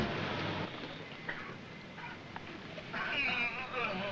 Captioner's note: man coughs; men groaning